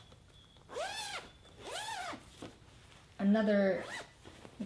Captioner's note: zipper zips